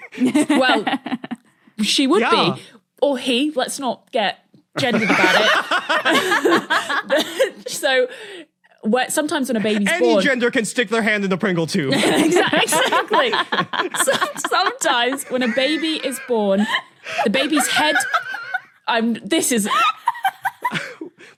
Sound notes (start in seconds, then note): 0.0 laughs; 4.8 group laughing; 11.9 guests laughing; 17.2 laughter continues; 19.7 laughs chirpily